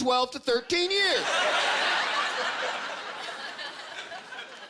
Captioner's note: laughter